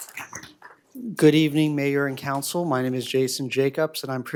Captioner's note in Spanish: aplausos